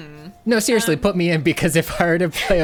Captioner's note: pat